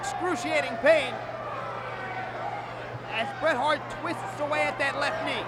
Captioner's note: applause